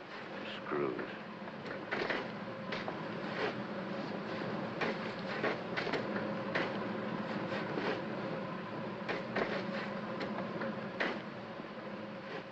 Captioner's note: sounds of shoveling; fire hissing